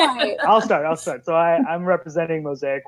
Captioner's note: laughing